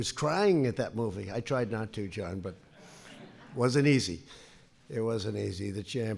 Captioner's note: laughter